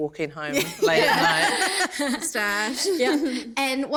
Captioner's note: laughter